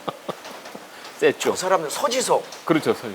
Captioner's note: laugh